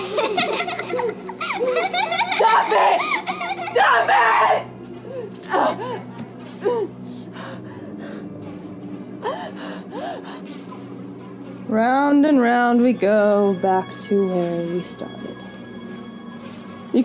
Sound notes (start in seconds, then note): 0.0 child giggles; 5.5 gasping